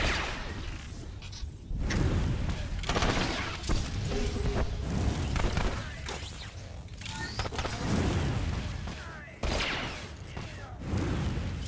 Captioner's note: gunshots